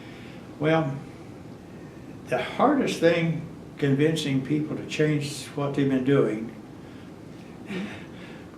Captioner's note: laughs